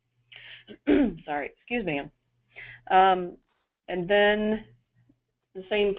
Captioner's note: clearing throat